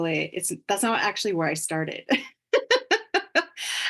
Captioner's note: laughs